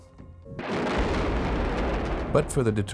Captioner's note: bomb exploding